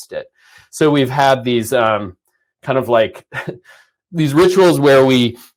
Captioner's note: chuckles